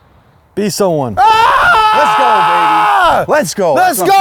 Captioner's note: screams